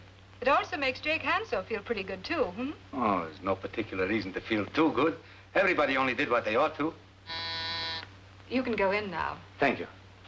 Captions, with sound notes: It'd also makes Jake Hanso feel pretty good too, hm? Oh, there's no particular reason to feel too good. Everybody only did what they ought to do. [bell buzzing] - You can go in now. - Thank you.